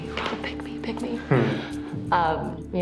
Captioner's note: chuckles